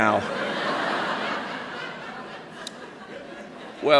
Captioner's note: laughter